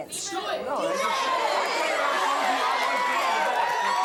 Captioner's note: audience cheering